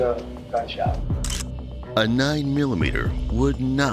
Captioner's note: camera shutter snapping